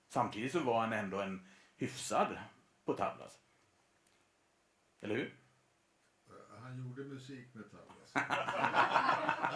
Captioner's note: laughter